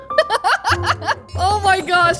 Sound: giggles

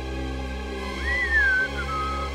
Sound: whistling

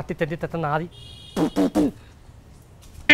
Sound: spitting

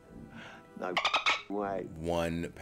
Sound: laugh

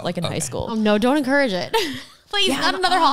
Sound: laughs

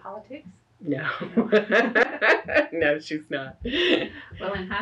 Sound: laughs

